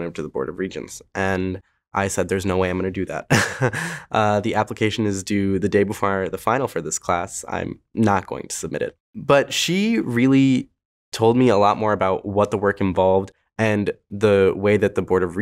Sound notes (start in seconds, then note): 3.3 laughs